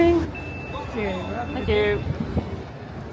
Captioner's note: device chimes